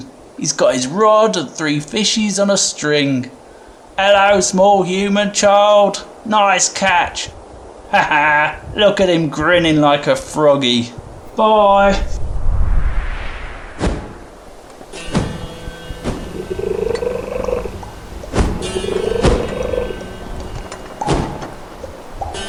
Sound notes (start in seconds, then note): 12.7 big whoosh and heavy wingbeats; 17.1 turtle trilling over music